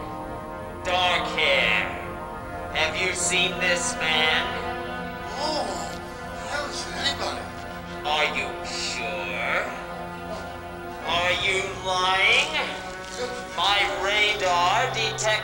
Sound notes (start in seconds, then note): 2.8 instrument crackling; 2.8 tense music